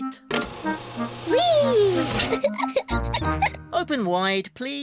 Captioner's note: giggles